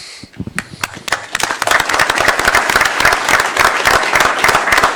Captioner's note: applause